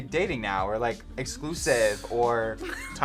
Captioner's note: sighs; React laughs